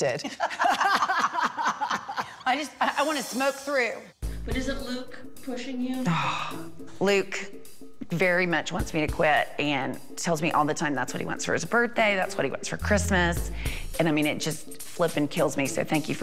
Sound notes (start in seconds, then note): 0.3 laughs; 6.1 sighs